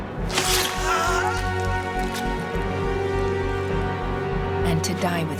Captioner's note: swords squelching; Antony groans